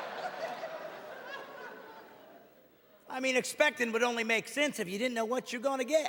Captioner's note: audience laughing